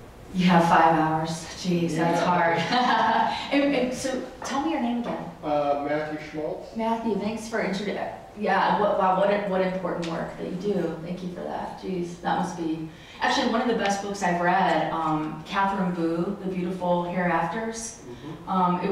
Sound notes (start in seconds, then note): 2.1 laughs